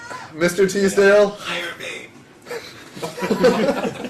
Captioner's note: whispering; laugh